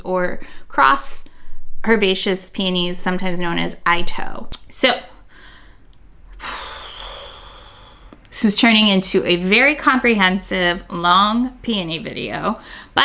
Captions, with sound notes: or crossed herbaceous peonies, sometimes known as Itoh. So, (exhaling loudly) this is turning into a very comprehensive long peony video.